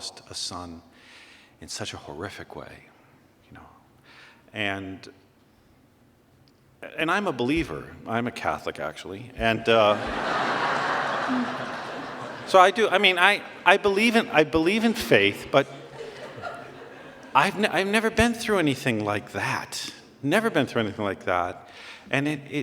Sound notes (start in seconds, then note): 9.7 laughter